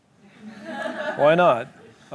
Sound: laughter

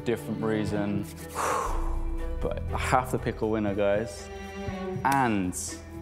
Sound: exhales

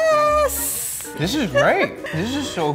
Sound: laughing

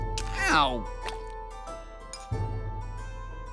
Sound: blood splats

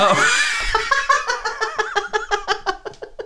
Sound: hysterical Laughter

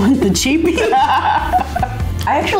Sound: laughing

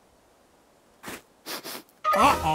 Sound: sniffs

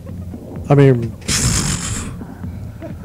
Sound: pffffffttttt

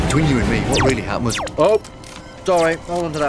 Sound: beeping

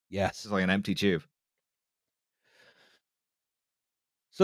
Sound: none

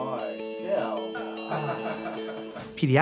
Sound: laughter

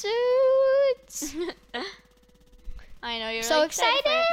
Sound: laughs

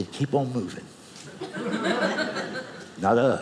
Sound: audience laughing

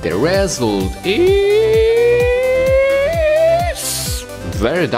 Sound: inaudible Screeching

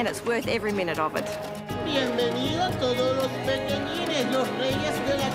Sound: speaking Spanish

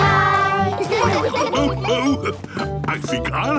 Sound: laughs

